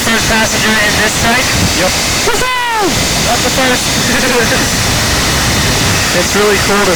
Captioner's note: laugh